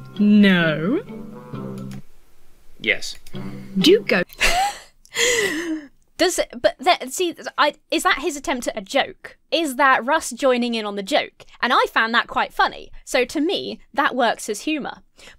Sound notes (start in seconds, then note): 5.1 wheezes